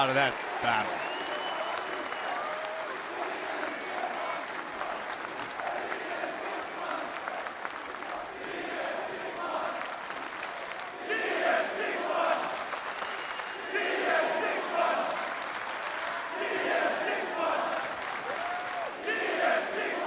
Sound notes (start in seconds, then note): 2.6 cheers and applause; 9.5 fans chanting